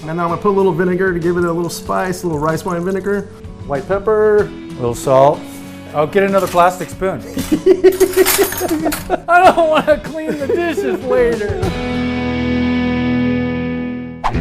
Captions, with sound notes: - And now I'll put a little vinegar to give it a little spice a little rice wine vinegar. White pepper, a little salt. I'll get another plastic spoon (laughs). - I don't wanna clean the dishes later! (guitar music)